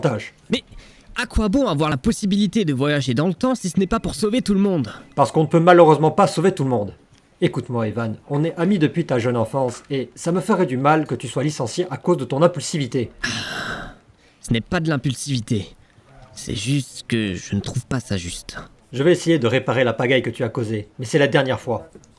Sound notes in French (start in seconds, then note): 13.2 soupir